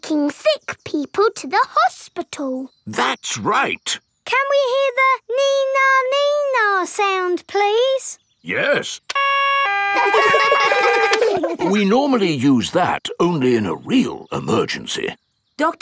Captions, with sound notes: Taking sick people to the hospital. That's right! Can we hear the "nee-nah, nee-nah" sound, please? -Yes. -(SIREN WAILING) -(KIDS LAUGH) -(SIREN STOPS) We normally use that only in a real emergency.